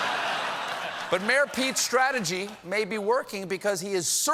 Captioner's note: laughter